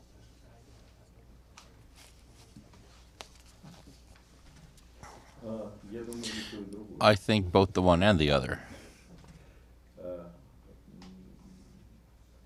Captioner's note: through translator